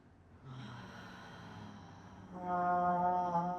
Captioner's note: sighing